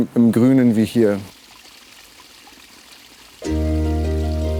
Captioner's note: sound of water splashing; idyllic music